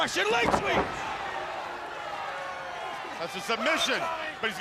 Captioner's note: crowd cheering